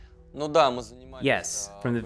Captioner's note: speaking in foreign language